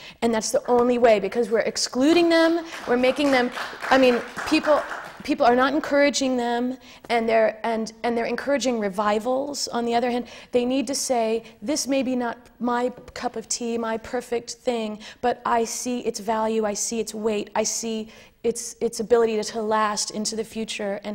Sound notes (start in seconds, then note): 2.5 applause